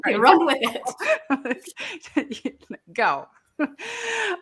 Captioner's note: laughing